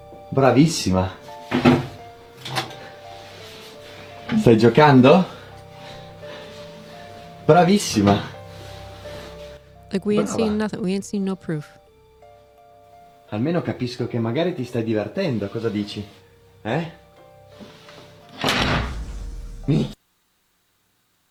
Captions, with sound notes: [Foreign Language] [Foreign Language] [Foreign Language] like we ain't seen nothing. We ain't seen no proof. [Foreign Language] [Foreign Language] [Foreign Language] [Door Slams] [Foreign Language]